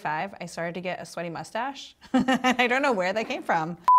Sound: laughs

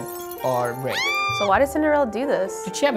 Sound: screams

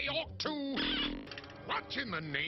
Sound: fart

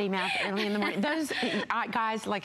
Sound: laughter

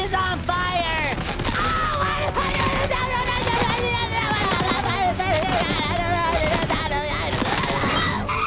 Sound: screaming

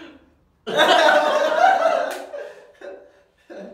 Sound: laughs by looking at each other

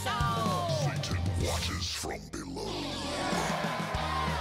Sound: deep voice

